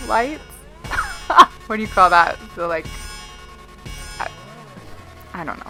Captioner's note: laughs